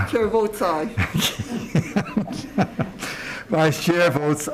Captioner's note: laughing